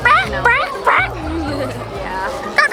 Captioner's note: clucks